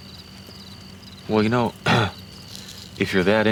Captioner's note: clears throat